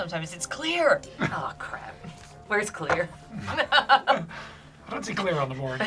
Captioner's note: laughs